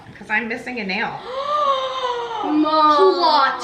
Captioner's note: gasps